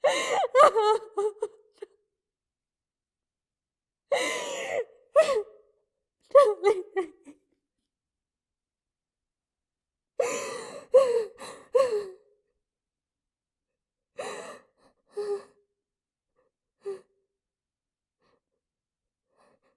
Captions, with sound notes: [sobbing] Don't leave me...